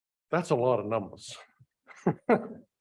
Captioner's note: laughing